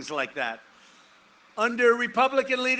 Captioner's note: none